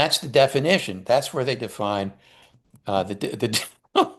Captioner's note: breaks off in laugher